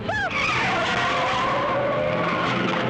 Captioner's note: tires screech